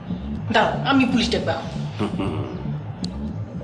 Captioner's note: Asad chuckles